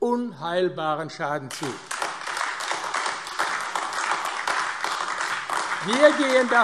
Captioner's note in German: Beifall AfD